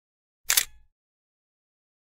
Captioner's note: camera shutter clicks